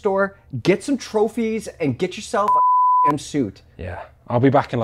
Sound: beep

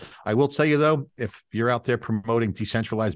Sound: none

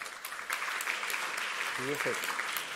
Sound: applause

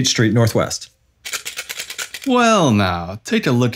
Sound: tap on the tin box

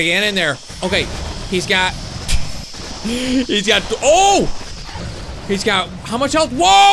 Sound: laughs

